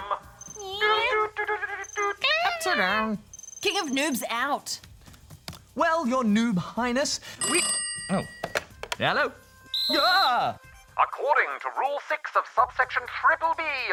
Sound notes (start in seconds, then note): 7.4 phone rings; 9.6 whistle blows